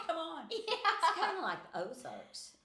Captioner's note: laughing